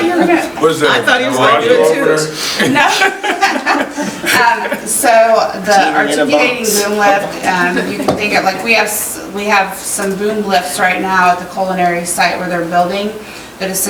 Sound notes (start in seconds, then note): 0.0 directors laugh and murmur; 2.5 laughing